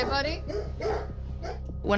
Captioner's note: dogs barking